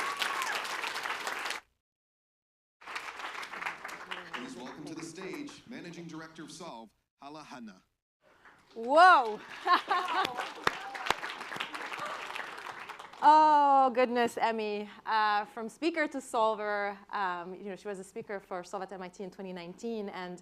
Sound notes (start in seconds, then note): 9.4 laughs; 10.6 applause